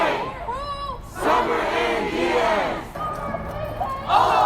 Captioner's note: crowd